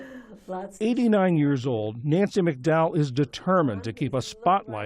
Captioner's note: voice-over